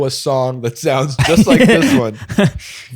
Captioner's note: laughs